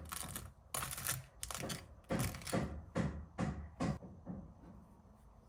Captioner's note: they're hammering nails next door